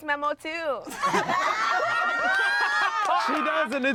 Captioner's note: everyone laughs